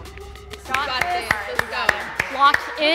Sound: energetic music; encouraging chatter

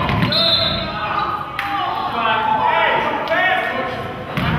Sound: whistle blows

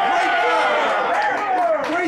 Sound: cheering

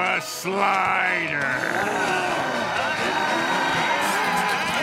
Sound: groaning; screaming

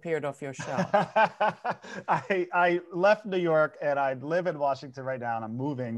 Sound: laughing

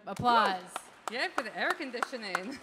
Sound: audience applauding

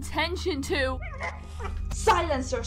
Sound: yelps

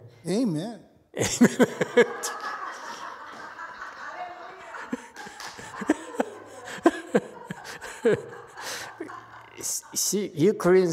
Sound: laughs, audience laughs, holds head

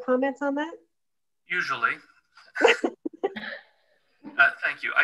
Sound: laughter

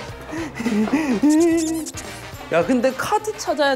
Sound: hehehe

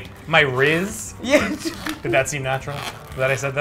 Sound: laughs

